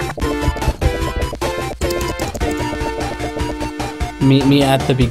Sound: Tails sputtering

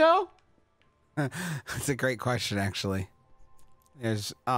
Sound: laughs

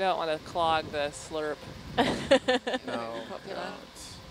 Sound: chuckling

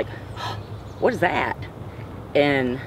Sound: gasps

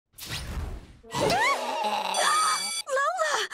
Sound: screaming; gasping

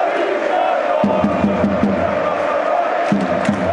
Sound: fans chanting

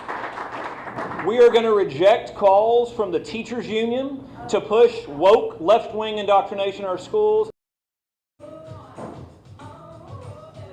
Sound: applause

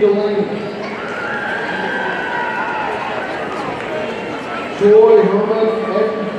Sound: audience cheering

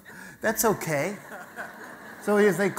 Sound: audience laughter

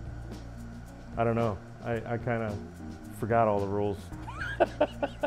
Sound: laughs

